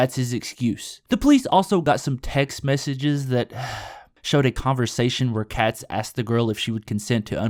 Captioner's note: sigh